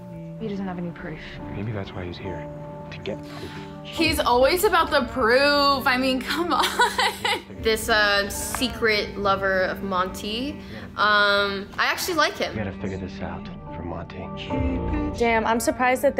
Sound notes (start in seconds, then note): 6.5 laughs